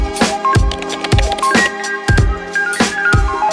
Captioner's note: keyboard clicking; upbeat music